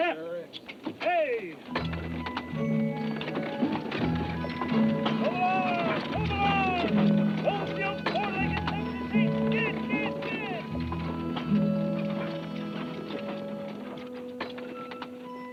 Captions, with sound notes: - Sure is. - Hey! Move along, move along! Move, you four-legged (speaker trails off). (gentle music)